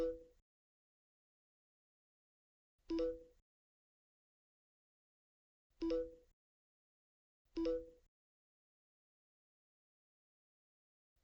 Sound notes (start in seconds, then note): none